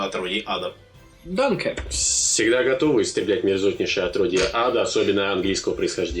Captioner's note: German